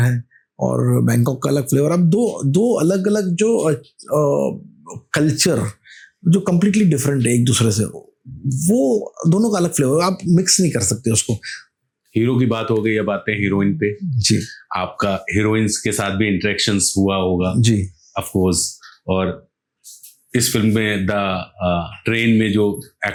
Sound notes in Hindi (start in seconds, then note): 5.5 नाक से की जाने वाली आवाज़